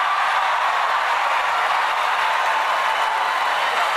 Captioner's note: cheers and applause